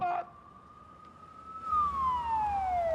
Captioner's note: siren wails